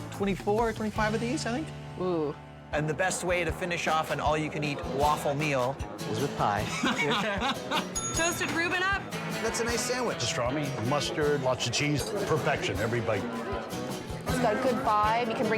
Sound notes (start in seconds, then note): 6.6 laughing; 7.9 bell dings